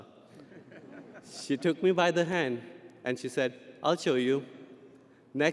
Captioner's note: audience laughing